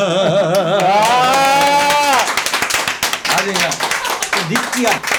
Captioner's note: applause